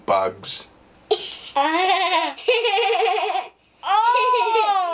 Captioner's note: laughter